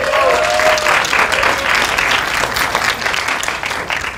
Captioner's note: applause